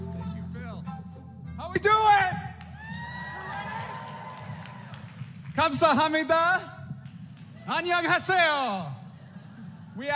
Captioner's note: applause; speaking Korean